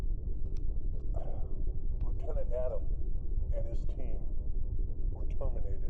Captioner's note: sighs